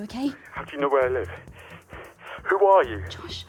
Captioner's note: panting